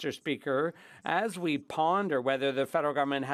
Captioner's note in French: voix de l'interprète